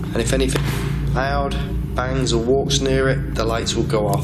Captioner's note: stomping on floor